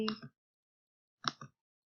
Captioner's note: click